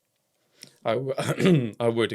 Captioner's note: coughs